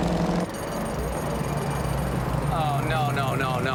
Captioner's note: jackhammer clinking